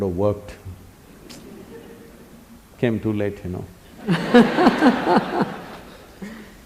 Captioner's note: laughter; 笑聲